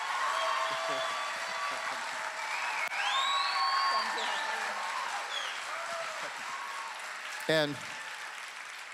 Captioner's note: people Cheering for the rebirth